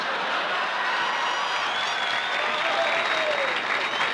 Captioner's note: crowd cheering